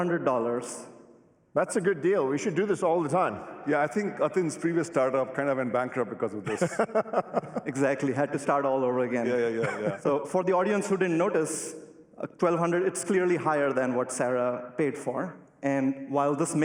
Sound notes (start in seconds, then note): 6.4 laughs